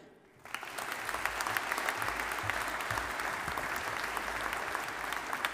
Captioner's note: audience applauding